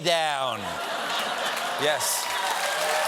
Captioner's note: laughter; cheers and applause